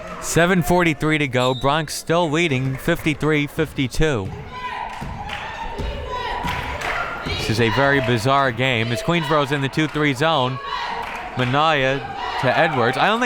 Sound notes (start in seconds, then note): 1.4 whistle tweeting; 5.2 crowd members chanting